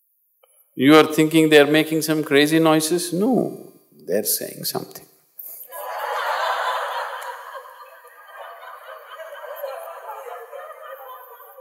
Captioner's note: laughter